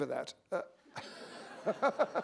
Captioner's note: laughter